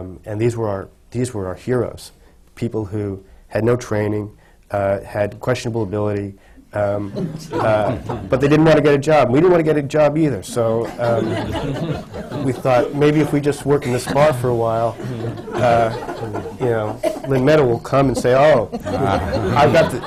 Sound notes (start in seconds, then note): 7.0 laughter